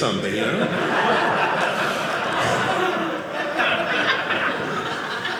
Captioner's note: audience laughing